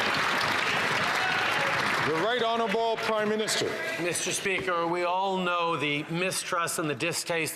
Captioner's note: some Applause